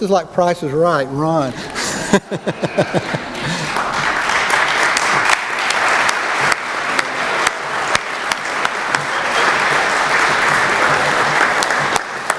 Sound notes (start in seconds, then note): 3.2 laughter; 5.1 applause